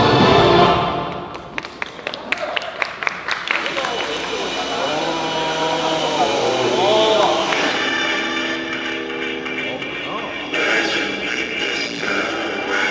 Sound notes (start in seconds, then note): 0.3 immediately, a round of applause erupts